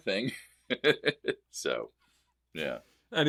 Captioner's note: laughs